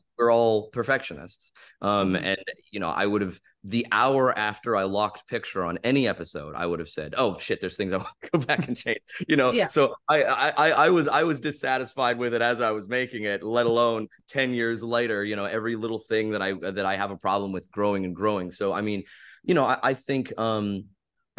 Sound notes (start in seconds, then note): 8.0 laughs